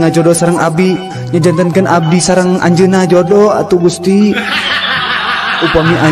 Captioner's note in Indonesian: tertawa